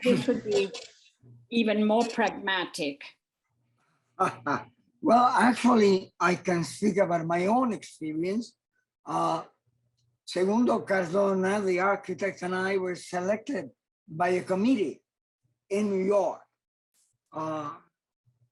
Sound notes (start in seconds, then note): 4.1 chuckles